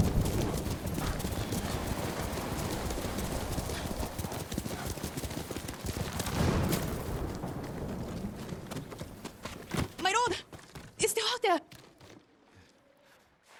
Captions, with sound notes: (fire crackling) - My lord, it's still out there.